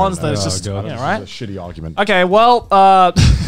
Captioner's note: murmurs